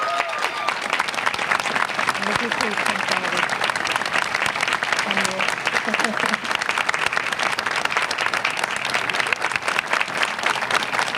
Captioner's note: applause